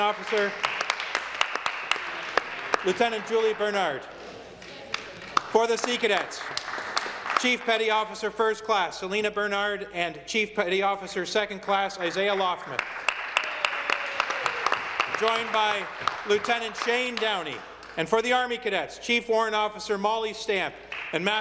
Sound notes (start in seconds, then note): 8.0 some Applause